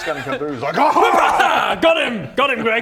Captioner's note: wrrPOW!